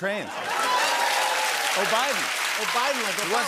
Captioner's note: cheering and applause